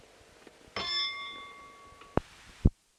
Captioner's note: bell Sound